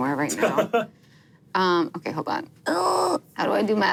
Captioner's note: laughs